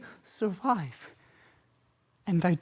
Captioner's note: heavy breathing